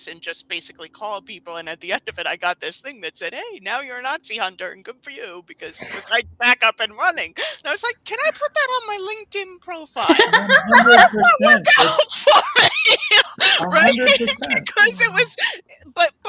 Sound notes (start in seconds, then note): 10.0 all laughing; 15.1 laughs